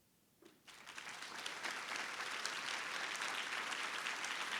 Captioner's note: audience applauds